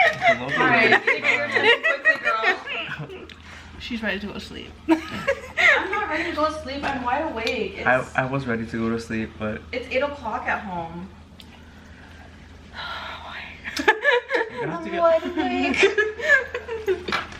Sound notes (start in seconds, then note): 0.0 laughs; 5.0 laughs; 12.8 sighs; 13.7 laughs